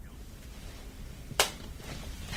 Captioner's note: cell phone closes